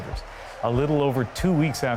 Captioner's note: cheers and Applause